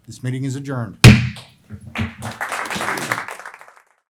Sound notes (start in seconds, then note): 1.0 gavel bangs; 1.9 applause